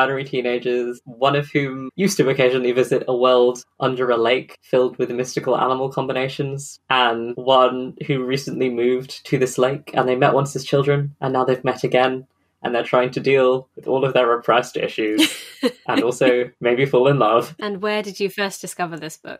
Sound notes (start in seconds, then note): 13.8 laughs